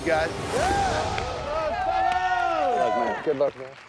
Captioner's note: crowd cheering